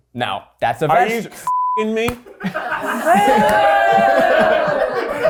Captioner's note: beep